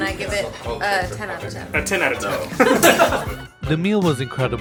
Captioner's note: laughs